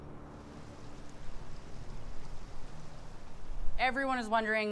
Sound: leafs rustling

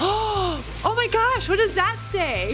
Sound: gasps

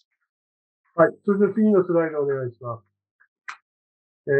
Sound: speaking japanese

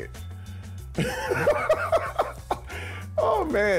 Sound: laughs

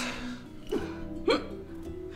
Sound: hiccup

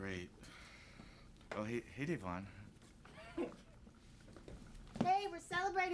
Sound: snickers

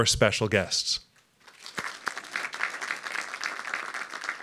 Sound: applause

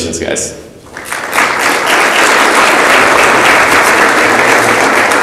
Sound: audience applauds

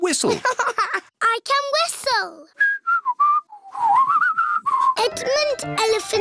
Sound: laughs; whistles

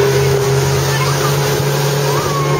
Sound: waves splashing

